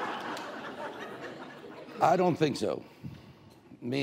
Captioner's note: laughter